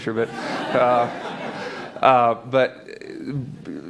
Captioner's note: laughter